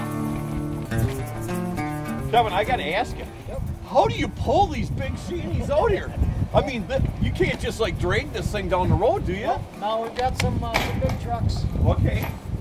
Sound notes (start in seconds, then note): 4.6 laughing